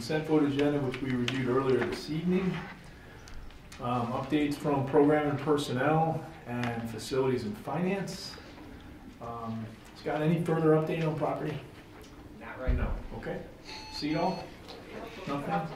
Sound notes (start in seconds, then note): none